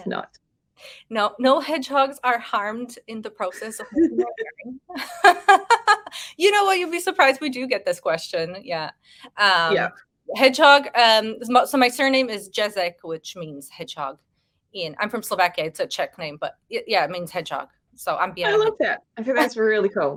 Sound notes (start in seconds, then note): 4.9 woman laughing